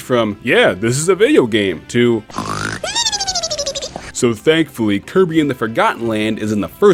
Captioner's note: snore